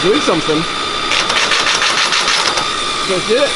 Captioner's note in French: Bruits d'imprimante